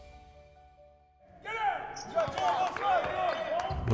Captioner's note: people cheers